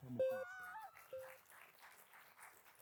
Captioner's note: machine beeping; sirens and muffled cries; audience clapping; muffled cries; machine beeping